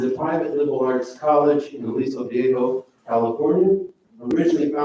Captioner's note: none